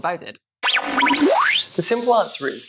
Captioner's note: tape whirring